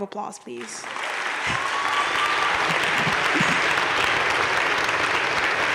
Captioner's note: audience cheering and applauding